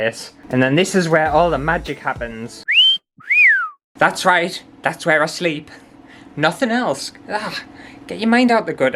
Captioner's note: sexy Whistle